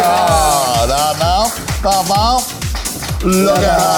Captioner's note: vocalizing